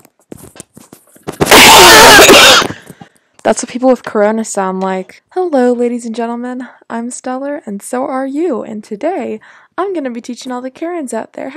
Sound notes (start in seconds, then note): 1.8 loud coughing